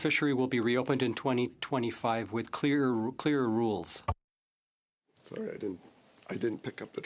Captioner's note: speaking French